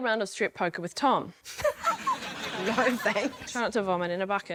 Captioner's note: laughs